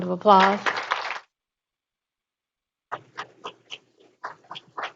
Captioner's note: group applauding